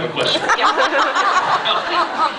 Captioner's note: laughs